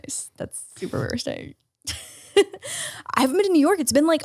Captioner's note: laughs